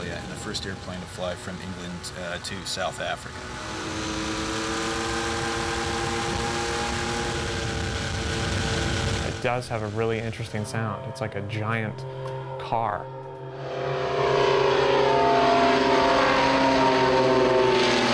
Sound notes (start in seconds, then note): 14.3 engine Droning